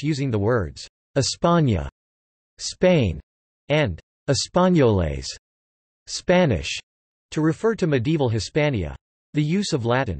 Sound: Spanish

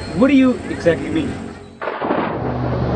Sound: thunder

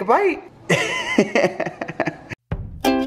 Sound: laughing; upbeat music

